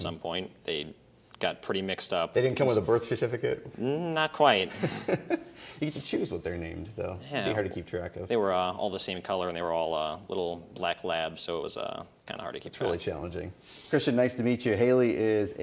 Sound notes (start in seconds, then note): 4.7 laughs